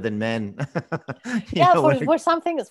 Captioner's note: laughs